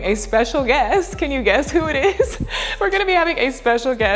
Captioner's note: laughs